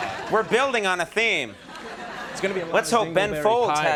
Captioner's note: audience laughs